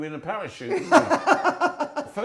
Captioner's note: laughing